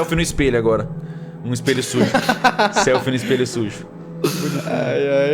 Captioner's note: laughter